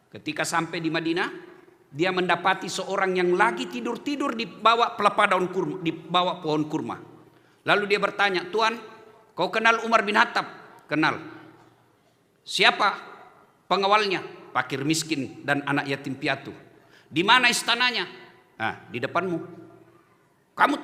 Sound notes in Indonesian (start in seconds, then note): none